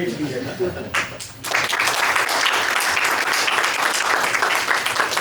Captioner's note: applause